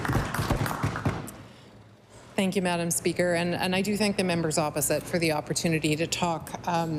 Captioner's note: applause